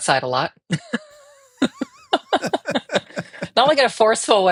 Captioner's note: both laughing